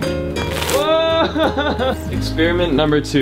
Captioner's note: laughing